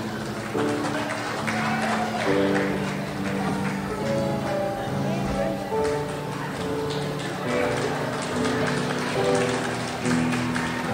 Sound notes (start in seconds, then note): 1.7 crowd applauds; 8.1 crowd applauds